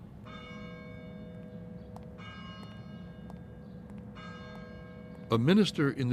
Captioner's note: bell tolling